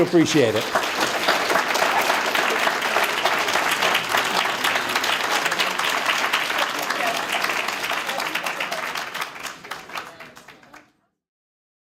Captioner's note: applause